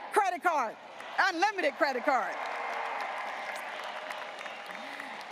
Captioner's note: graduates applauding and cheering